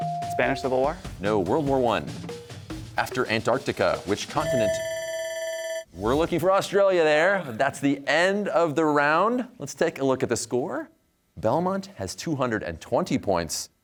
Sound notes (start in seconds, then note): 4.4 bell ringing